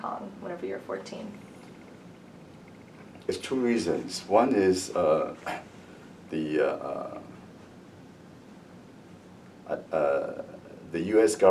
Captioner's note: cough